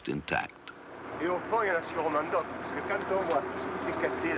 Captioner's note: speaking french